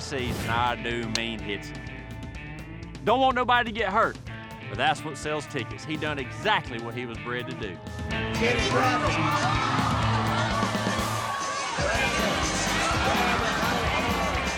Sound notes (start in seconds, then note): 1.9 slams fist; 8.7 crowd gasps